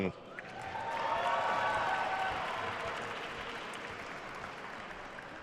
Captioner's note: attendees cheering and applauding